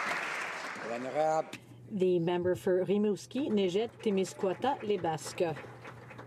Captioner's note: some Applause